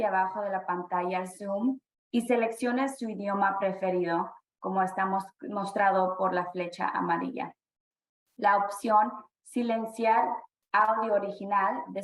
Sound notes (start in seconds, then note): 0.0 speaking spanish